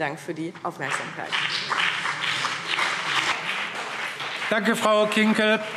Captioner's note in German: Beifall BÜNDNIS 90/DIE GRÜNEN und CDU